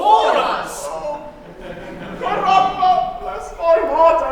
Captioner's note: laughter